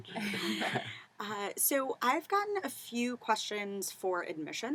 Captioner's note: laugh